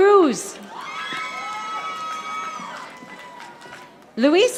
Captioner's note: audience applauding